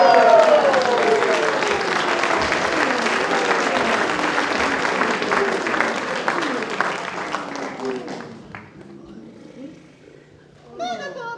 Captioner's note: applause